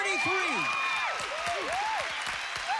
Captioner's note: cheers and applause